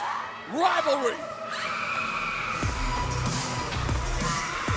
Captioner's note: crowd cheering